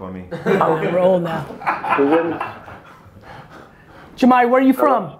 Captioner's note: laughing